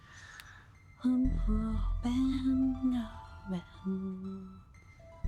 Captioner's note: Caroline humming